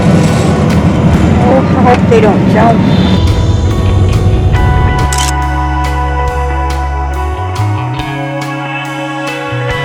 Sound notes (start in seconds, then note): 5.1 photo click